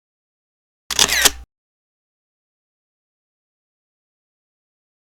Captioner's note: camera lens snapping